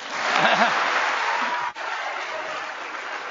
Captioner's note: applause